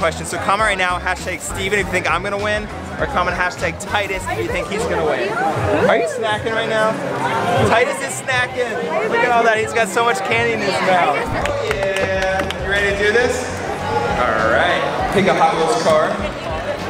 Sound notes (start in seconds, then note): 11.4 clapping